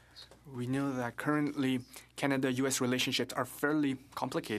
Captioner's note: speaking French